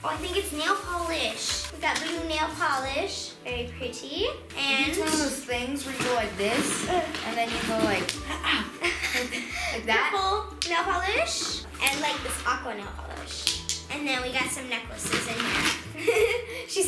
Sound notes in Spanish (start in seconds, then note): 6.0 banda elástica se ajusta; 8.4 risas; 15.9 risas